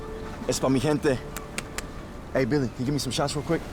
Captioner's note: birds squawking in the distance; Miguel speaks in Spanish